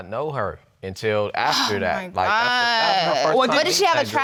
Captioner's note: sighs